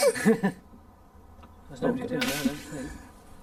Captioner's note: both laughing